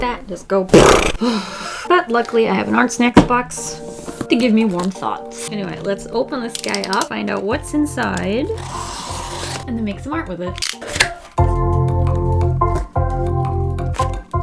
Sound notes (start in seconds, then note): 1.2 brrrr; 10.4 click; 10.6 box opens